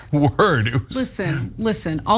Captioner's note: laugh